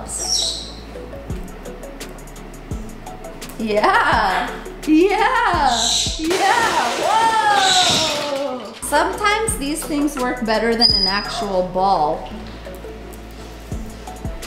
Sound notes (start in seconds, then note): 0.0 Jersey squawks; 6.2 crashing